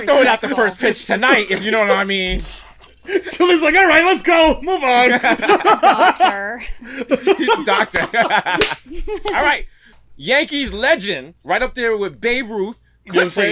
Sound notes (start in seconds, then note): 5.0 laughter; 6.4 laughs; 8.1 laughter